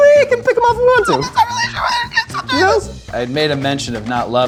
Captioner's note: mumbles in high pitched voice